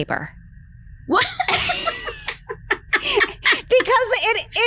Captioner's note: laugh